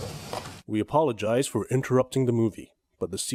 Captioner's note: narrator voice